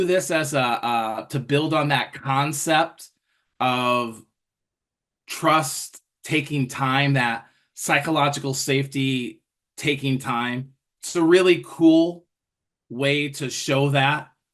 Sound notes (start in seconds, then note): none